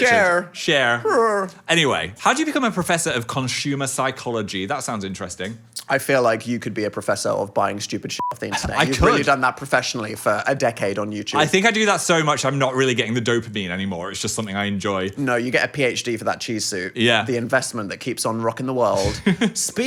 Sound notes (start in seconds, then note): 8.2 beep